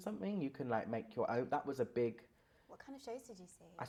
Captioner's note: intake of breath